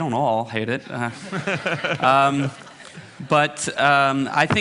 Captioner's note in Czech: smích